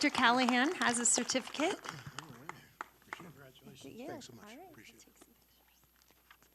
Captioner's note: applause